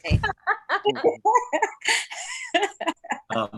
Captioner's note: laughs